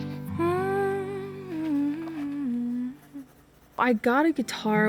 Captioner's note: melodic guitar music; humming